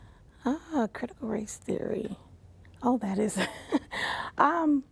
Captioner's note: laughs